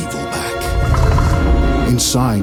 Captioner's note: Rat King growls